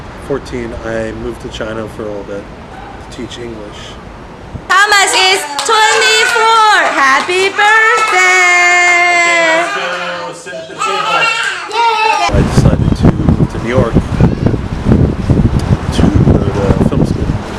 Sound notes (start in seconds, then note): 11.5 children yelling